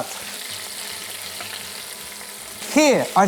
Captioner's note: sizzling sound